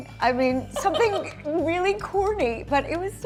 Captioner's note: laughing